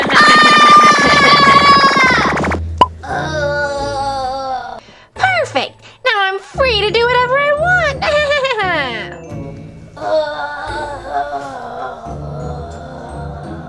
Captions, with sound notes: (yelling) (moaning) - Perfect! Now I'm free to do whatever I want. (laughing) (moaning)